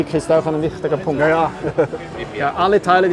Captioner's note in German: lacht